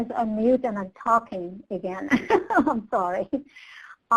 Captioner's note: laughs